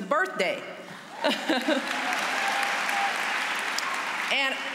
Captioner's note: applause